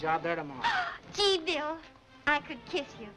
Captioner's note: gasping